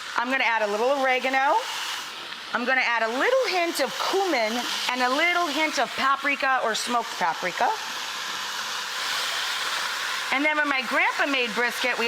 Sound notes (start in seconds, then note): 8.3 pot sizzles